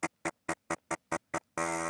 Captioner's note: drill Whirring